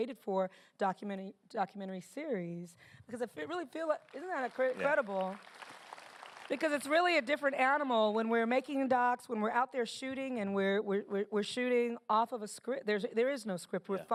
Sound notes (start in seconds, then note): 4.0 applause